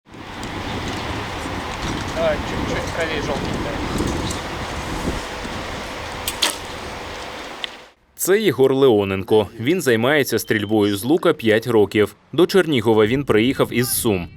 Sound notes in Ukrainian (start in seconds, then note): 0.0 Стріляє